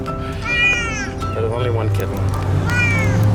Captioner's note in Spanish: Maullidos